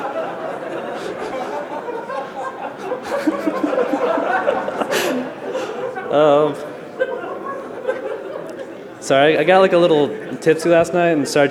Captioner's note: laughter